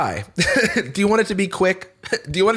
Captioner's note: laughs